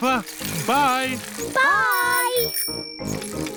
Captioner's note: bell rings